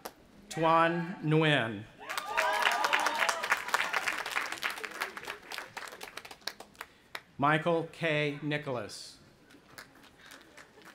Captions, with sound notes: Tuan Ngueyen. (audience applauding and cheering) Michael K. Nicholas.